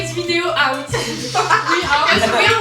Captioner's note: laughs